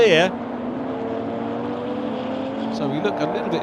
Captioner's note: car engines revving